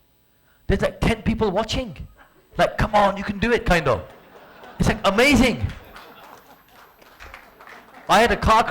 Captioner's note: audience : clapping